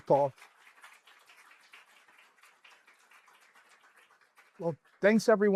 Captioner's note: applause